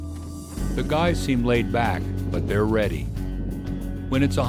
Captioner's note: voiceover